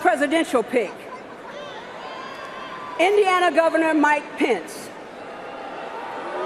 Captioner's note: booing